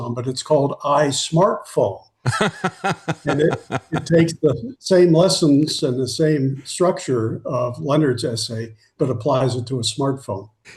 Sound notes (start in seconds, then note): 2.2 laughing